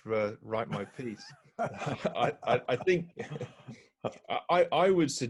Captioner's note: laughing